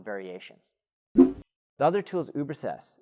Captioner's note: air whooshing